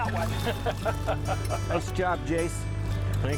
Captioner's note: laughing